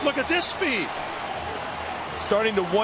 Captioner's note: crowd cheering